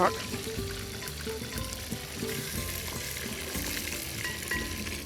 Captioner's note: sizzling